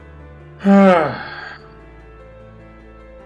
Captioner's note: sighs